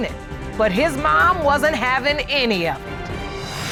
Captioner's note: none